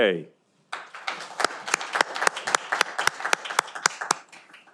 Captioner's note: audience applauding